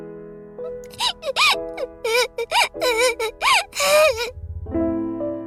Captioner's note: whimper